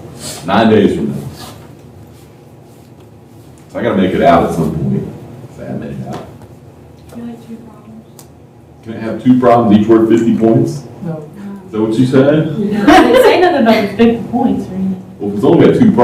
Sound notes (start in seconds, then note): 12.7 laughter